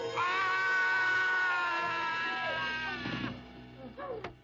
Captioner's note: Walter screams